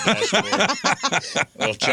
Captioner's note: laughing